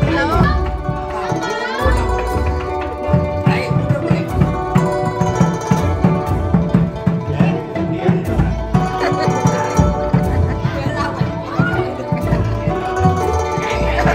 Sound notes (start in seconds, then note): 12.5 laughed; 13.7 everybody laughed